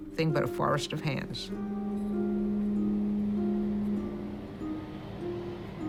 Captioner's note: traffic humming